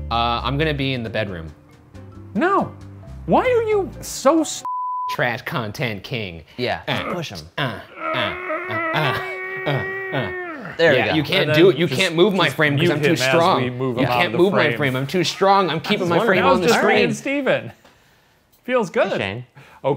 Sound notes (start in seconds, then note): 4.6 beep; 6.8 grunts